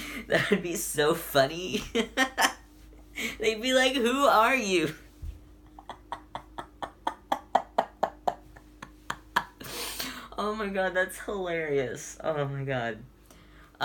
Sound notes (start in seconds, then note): 5.6 laughs